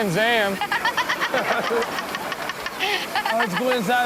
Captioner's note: everyone laughs